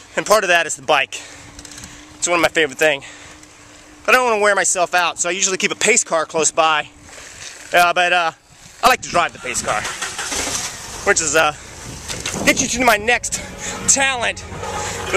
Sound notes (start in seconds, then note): 9.0 car engine starts